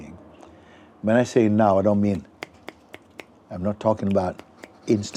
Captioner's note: snaps fingers repeatedly